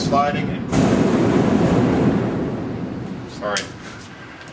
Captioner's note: booming rumble